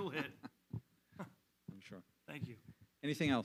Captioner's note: laughing